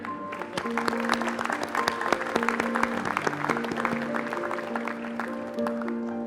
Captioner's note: applause